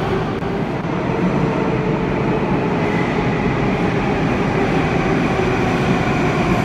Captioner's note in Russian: прибытие поезда на станцию